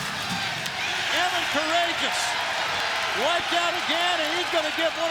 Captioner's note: crowd cheering